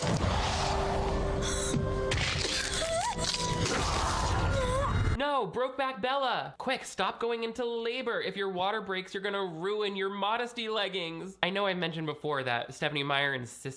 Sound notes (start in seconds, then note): 0.0 dramatic music; 0.2 Bella gasps; 2.0 bones crack; 2.6 Bella cries